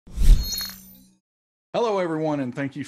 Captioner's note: logo swooshing